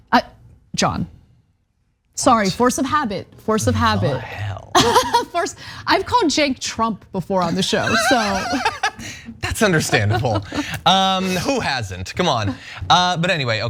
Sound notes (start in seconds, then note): 4.6 laugh